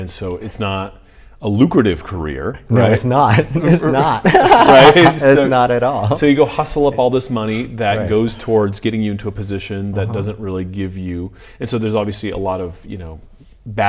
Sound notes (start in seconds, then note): 4.5 laughing